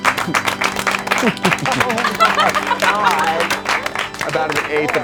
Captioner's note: chuckling gently